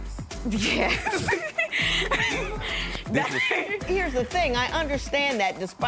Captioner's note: chuckles